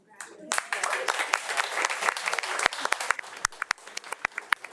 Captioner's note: audience applauds